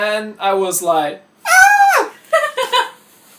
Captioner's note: screams like a little girl